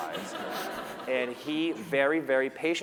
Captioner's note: laughter